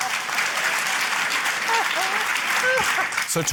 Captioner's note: applause